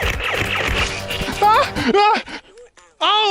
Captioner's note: Nerf blaster firing